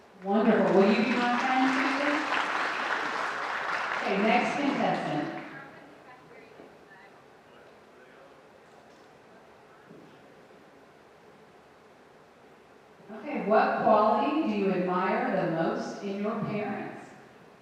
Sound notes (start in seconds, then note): 2.4 audience applauding